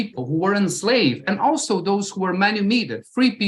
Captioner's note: non-english